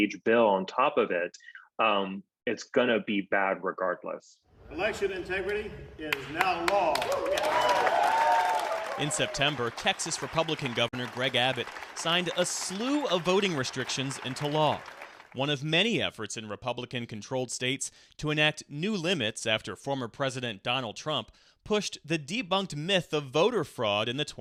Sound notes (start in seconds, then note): 6.9 cheering and applause